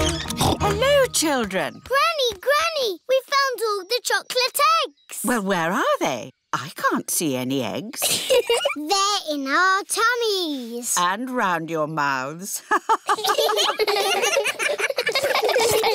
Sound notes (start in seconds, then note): 0.3 snorts; 8.0 giggles; 12.6 all laughing; 12.7 laughs